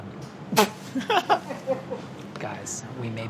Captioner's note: laughing